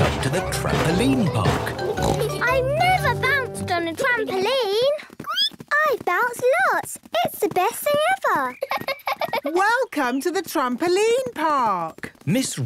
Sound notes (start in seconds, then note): 5.5 squeaks; 8.5 giggles